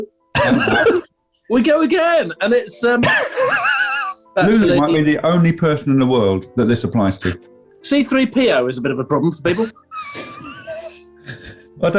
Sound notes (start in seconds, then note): 0.3 laughing; 3.1 sniggering; 9.7 sniggering